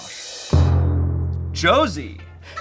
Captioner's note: thud booms